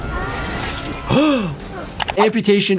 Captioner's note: dramatic music; Jordan gasping; screen clicking